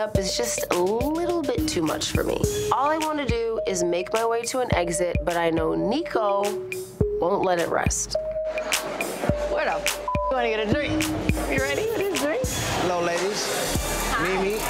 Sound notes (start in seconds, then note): 8.6 anxious electronic music; 9.7 beep